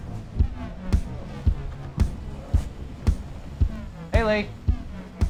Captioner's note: restaurant sounds